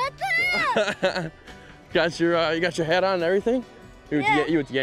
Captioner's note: laughs